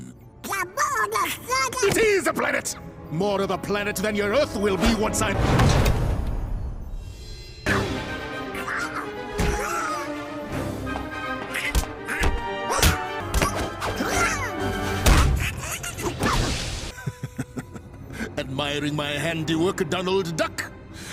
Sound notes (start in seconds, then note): 8.1 fighting noises; 16.9 evil chuckle